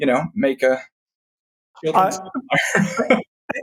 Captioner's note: laughs